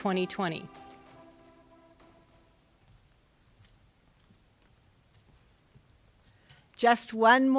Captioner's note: footsteps